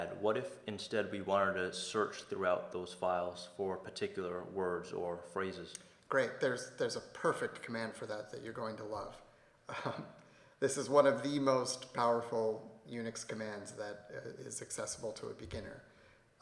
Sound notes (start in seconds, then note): 9.7 laughs